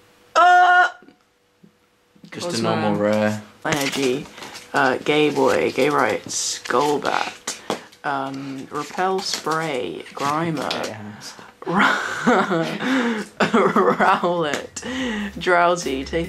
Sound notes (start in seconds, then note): 11.6 laughs; 14.7 electronic music